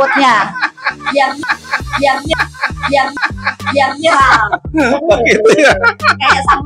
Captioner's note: laughs